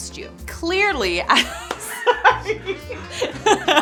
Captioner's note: laughs